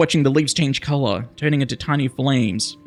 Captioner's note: none